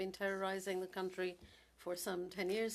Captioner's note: speaking French